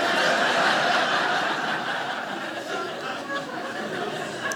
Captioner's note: audience laughing